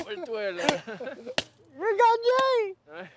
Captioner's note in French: rires